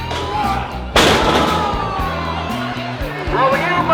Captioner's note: crowd cheering; thud